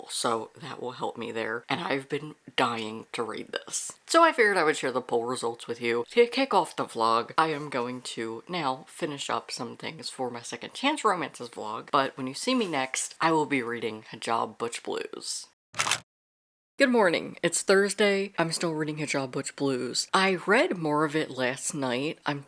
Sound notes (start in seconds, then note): 15.7 camera Shutter